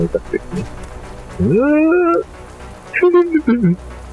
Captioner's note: sounds of struggling